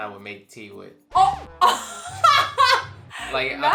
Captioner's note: laughs